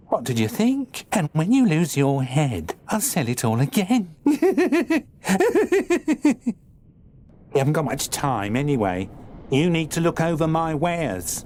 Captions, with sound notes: What did you think? And when you lose your head, I'll sell it all again. [Giggling] You haven't got much time, anyway. You need to look over my wares.